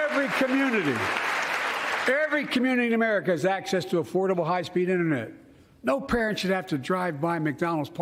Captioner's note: cheers and applause